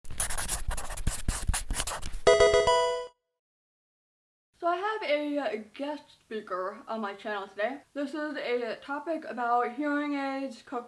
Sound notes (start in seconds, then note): 0.0 marker pen scratching; 2.3 Pokemon game sound